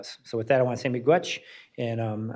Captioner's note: speaks in foreign language